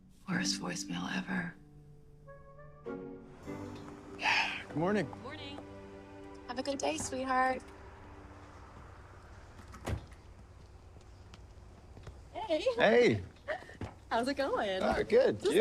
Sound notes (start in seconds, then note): 4.1 sighing